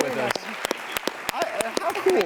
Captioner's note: applause